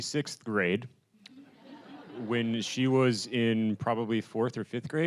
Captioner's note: audience laughing